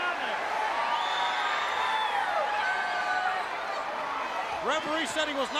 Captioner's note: crowd cheering